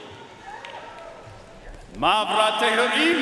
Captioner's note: audience cheering and applauding